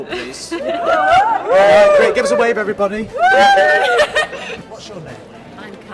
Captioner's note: cheering